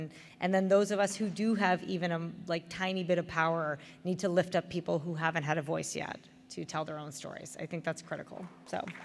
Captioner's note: applause